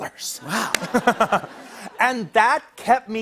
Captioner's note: laughter